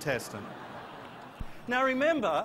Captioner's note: laughter